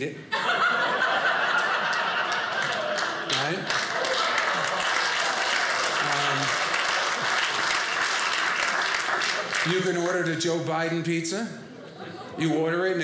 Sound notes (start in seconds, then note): 0.3 audience laughing; 5.1 audience cheering